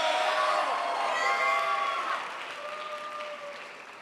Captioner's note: crowd applauds